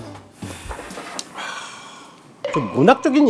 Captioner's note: ahh